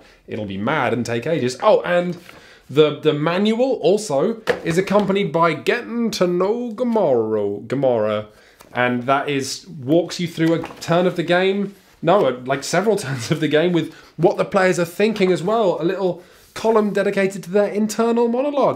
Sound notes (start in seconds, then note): 6.3 very bad Wild West accent